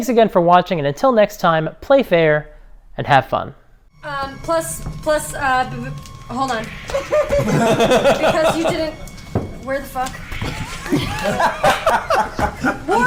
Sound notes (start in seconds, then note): 6.9 all laugh; 10.5 all laugh